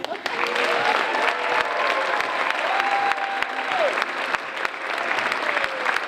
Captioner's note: audience cheering and applauding